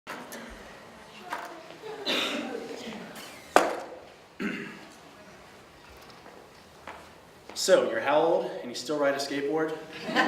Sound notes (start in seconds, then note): 3.5 skateboard hitting floor